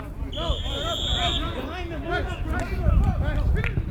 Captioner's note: whistle